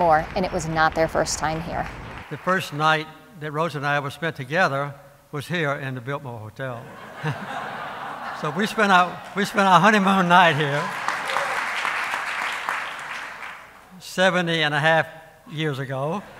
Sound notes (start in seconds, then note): 6.8 laughter; 12.4 applause